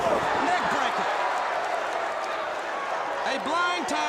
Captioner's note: crowd cheering